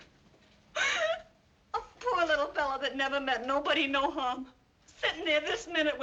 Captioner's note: sobs